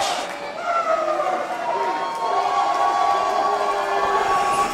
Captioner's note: crowd cheering